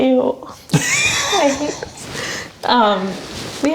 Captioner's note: laughs